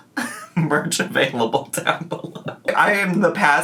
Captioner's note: laughs